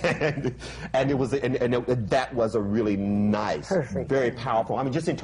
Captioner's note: laughs